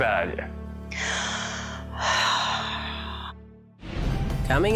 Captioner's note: sigh